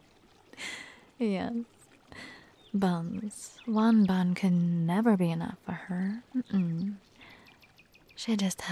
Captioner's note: chuckles